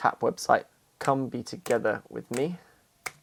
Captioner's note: tapping, clicking fingers